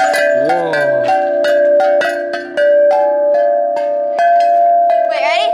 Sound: chimes ringing

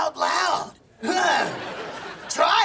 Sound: laughing

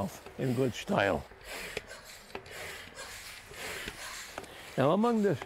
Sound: sawing

